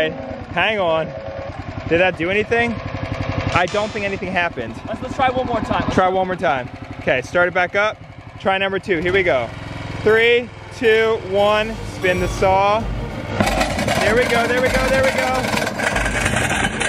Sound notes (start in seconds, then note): 12.9 machine whirring and crunching